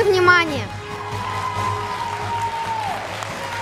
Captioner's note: applause